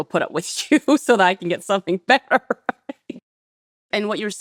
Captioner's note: laughs